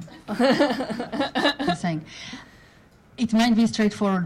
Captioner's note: laughing